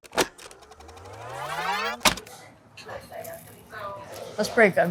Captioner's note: tape whizzing